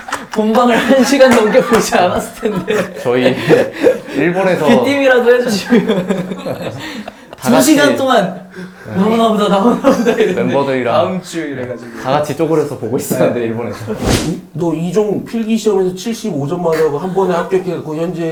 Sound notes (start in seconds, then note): 6.2 having a hard time breathing